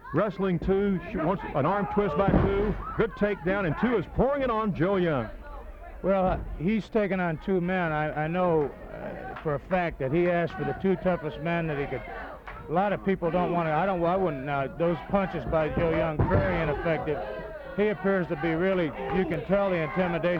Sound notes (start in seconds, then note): 9.6 blows thudding; 16.4 blows thudding